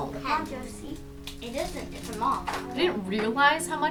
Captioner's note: kids talking